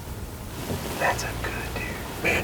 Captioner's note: whispering